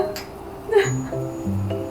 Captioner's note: haha